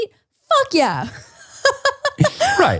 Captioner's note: laughs